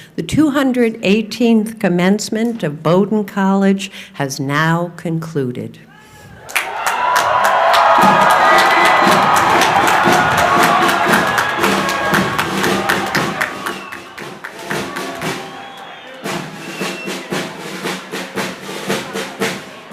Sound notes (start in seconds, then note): 6.6 crowd cheering; 8.0 upbeat percussion music